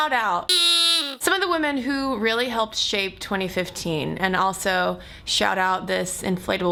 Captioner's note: horn sound